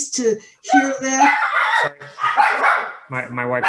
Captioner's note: dog barks